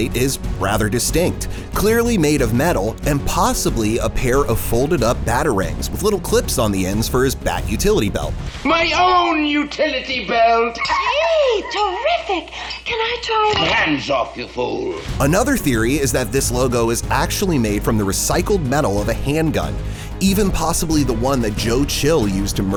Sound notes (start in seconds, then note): 10.3 laughing